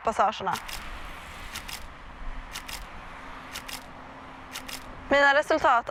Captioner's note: camera shutter click sound